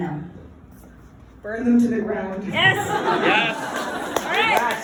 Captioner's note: laughter